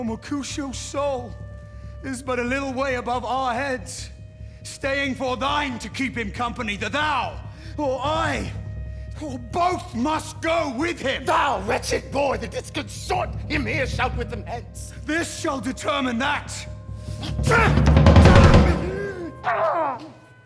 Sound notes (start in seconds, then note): 17.1 grunting